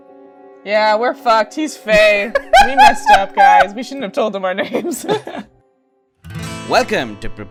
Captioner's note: laughter